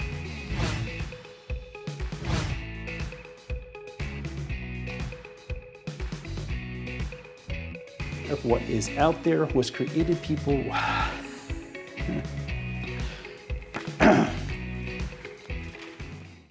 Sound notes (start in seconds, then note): 0.0 upbeat music; 0.4 swooshing; 12.1 sighs; 13.8 clears throat